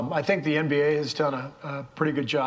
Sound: none

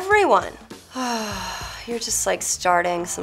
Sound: sighing

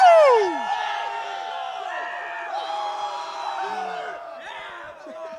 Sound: cheering

